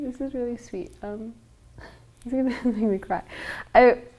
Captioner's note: nervous laughing